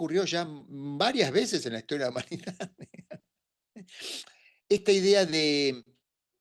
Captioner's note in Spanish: resoplido